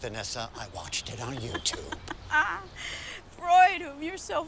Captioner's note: Vanessa laughs